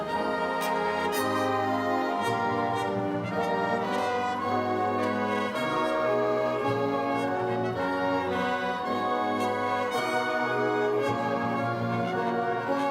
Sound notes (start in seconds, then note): none